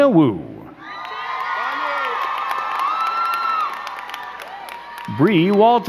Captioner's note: crowd cheering and clapping